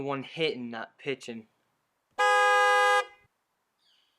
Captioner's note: horn